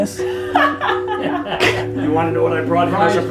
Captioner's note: laughs